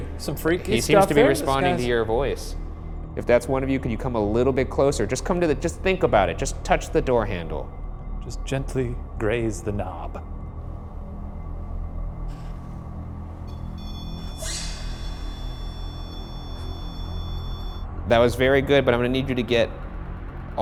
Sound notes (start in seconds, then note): 11.4 dark foreboding music; 13.5 REM-pod beeping